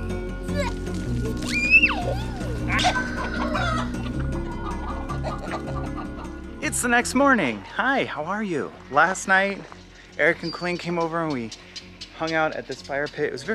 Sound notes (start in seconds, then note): 0.2 giggles; 2.8 rooter crow